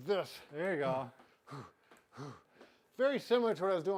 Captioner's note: exhaling